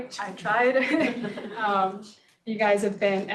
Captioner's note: laughs